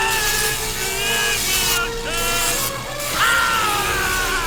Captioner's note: screaming